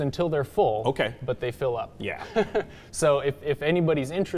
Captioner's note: chuckles